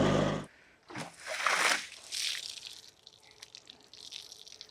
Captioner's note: water sloshing